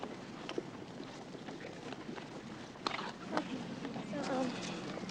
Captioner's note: crowd murmuring